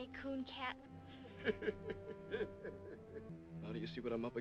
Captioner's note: laughing